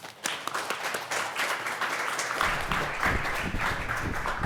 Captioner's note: audience applauding